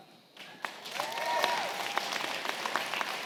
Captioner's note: applause